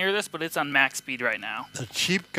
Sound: motor quietly whirring

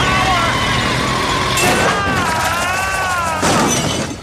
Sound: screaming

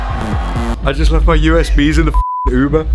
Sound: upbeat techno music; beep

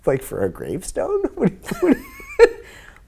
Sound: laughing

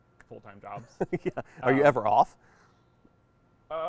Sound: laughs

